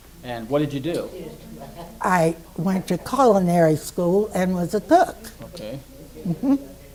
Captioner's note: affirms